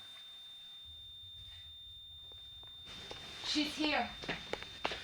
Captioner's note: monitor beeping continuously